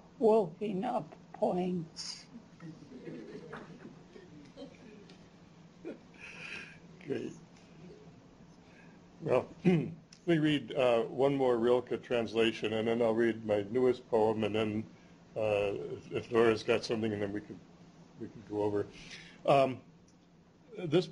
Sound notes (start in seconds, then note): 2.6 chuckles